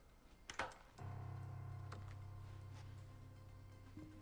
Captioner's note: lock clicking